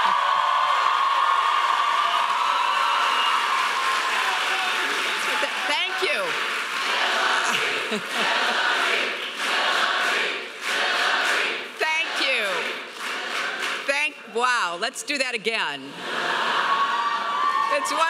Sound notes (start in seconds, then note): 0.0 audience cheering loudly; 7.3 crowd; 16.2 laughing